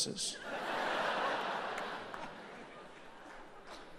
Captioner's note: audience laughs